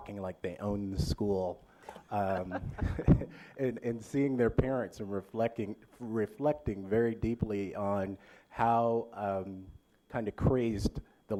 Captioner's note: laughter